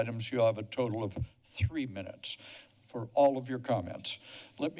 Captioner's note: none